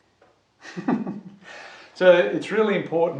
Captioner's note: laughs